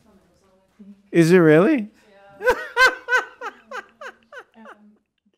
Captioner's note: rires